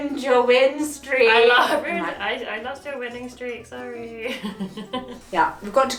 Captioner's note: laughs